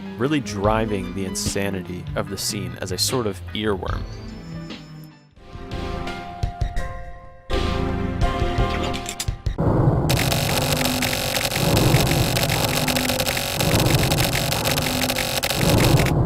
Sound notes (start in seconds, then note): 8.4 revolver click; 10.1 typewriter noise